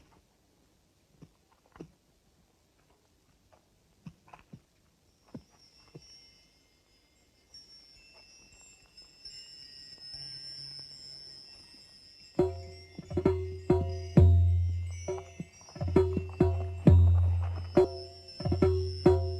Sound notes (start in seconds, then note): 7.2 chiming; 12.4 energetic music